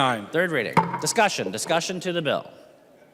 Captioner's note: gavel